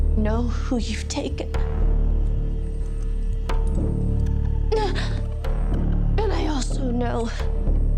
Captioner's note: none